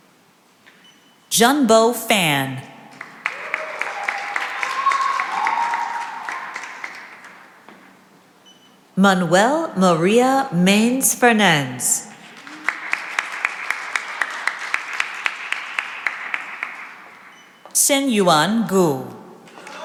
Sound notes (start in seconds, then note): 3.0 cheering and applause; 12.1 applause